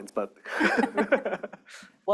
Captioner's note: chuckles